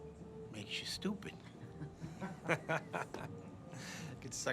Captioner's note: laughing